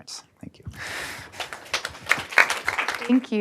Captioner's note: audience applauding